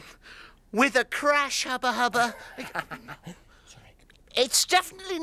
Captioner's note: laughing